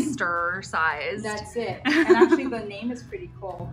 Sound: laughs

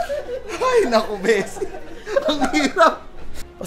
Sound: weeps

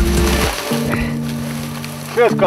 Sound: laughing

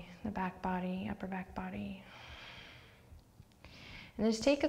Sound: deep breath

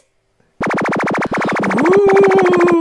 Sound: electrical whirring; ghost wailing

